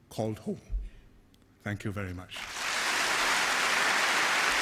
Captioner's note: applause